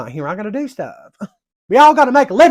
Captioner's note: scoffs again